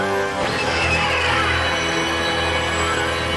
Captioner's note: zap